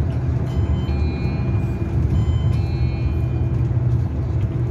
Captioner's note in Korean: 하차벨 소리